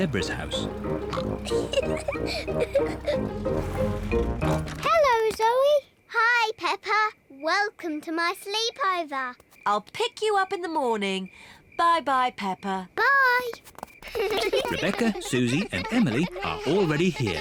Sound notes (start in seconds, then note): 0.4 oinks and giggles; 4.1 oinks